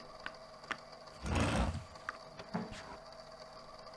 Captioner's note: brief tapping on wood, then a chair being moved, someone sitting